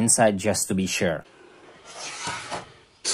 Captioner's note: pen sound